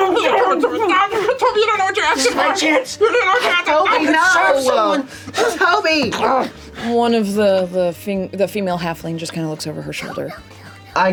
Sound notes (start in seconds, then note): 6.4 groans